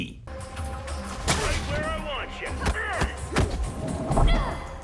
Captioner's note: characters grunting